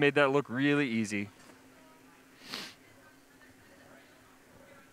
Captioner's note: sniffles